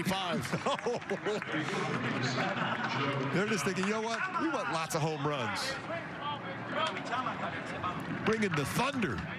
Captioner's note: laughs